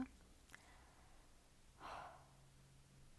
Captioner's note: exhale